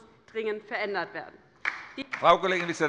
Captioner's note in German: Beifall bei der LINKEN